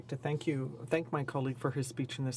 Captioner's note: speaking French